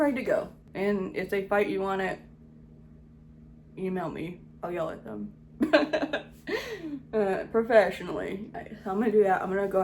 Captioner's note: laughs